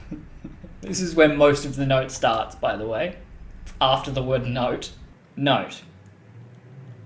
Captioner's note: laugh